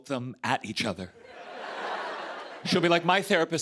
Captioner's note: laughter